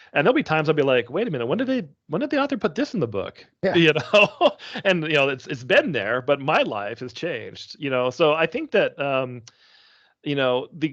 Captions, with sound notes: And there’ll be times I’ll be like, “Wait a minute, when did they, when did the author put this in the book?” You know, [CHUCKLING] and, you know, it’s been there, but my life has changed, you know? So I think that, you know,